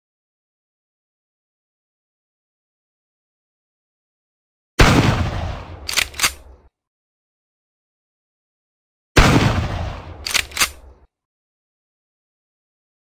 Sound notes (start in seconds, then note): 4.8 boom; 5.8 reloads; 9.2 bang; 10.2 reloads